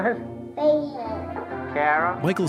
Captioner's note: baby babbles